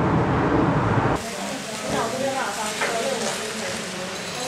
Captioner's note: idle chatter